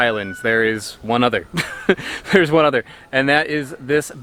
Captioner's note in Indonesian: tertawa